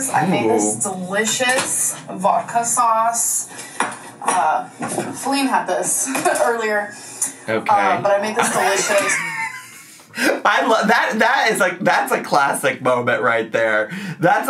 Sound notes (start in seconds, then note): 8.4 laughs